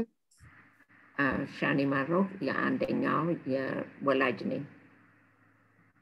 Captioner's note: speaking in foreign language